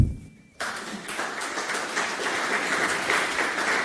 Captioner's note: applause